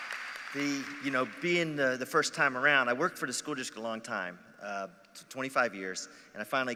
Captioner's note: applause